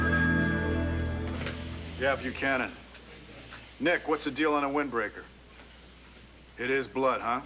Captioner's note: telephone rings